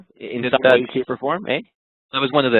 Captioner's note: voice muffled